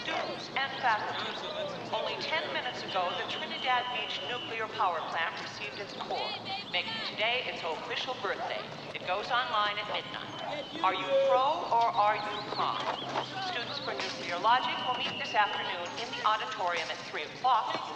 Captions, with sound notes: [Voice on PA] Only ten minutes ago, the Trinidad Beach Nuclear Power Plant received its core. Making today its official birthday. It goes online at midnight. Are you pro, or are you con? Students for Nuclear Logic will meet this afternoon, in the auditorium at three o'clock,